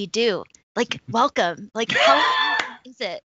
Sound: laughing drowns out speaker

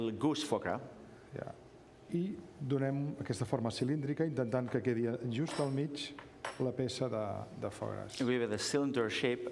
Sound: speaking catalan

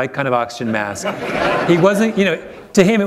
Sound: laughter

